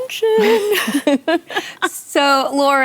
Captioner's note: laughter